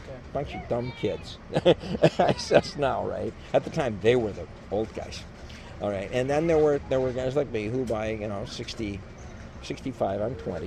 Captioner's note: laughs